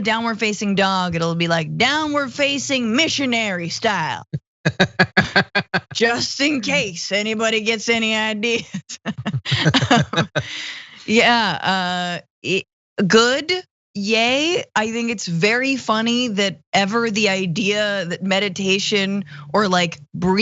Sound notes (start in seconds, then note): 4.6 laugh; 8.8 laugh